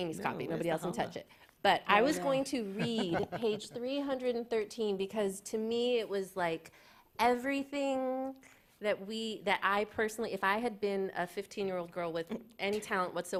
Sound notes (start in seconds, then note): 2.6 laughter